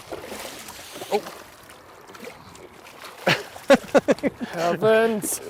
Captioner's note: splash